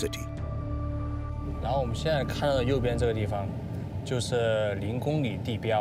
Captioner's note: speaking foreign language